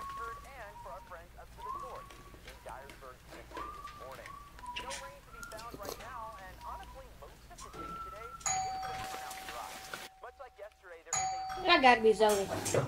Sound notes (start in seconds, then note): 8.3 doorbell ring